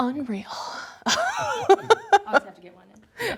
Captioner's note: laughter